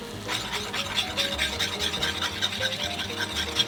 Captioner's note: whisking